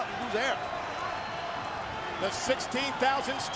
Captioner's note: audience cheering and clapping